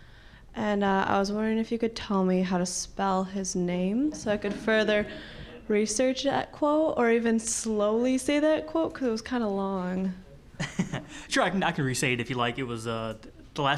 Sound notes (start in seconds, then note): 10.6 chuckling